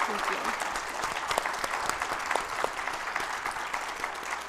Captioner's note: audience applauds